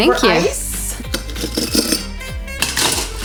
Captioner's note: ice cubes rattling into a collins glass; ice cubes rattling